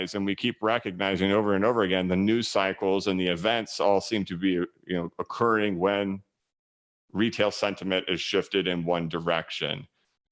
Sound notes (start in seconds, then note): none